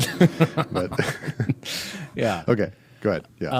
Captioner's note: laughing